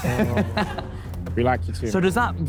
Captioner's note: Sidemen laugh